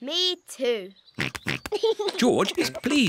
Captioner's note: snorts and giggles